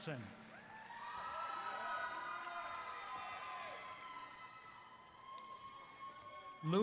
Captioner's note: applause